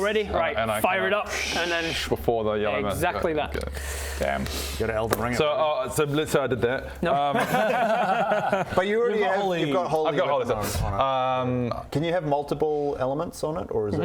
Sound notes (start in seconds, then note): 7.3 disappointed laughter